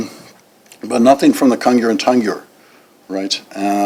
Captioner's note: non-english